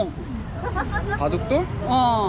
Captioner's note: excited laughter